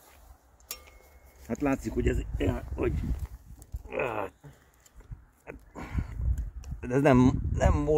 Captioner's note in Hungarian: nyögés